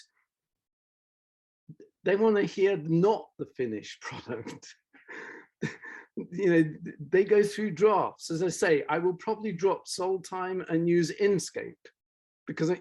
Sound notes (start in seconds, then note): 5.7 laughs